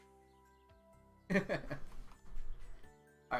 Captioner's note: laughs